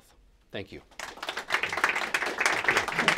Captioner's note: applause